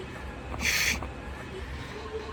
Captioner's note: inhale